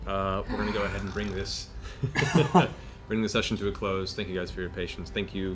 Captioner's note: laughs